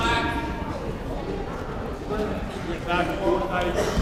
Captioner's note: players murmuring